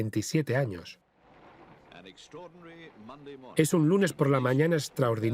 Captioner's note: voiceover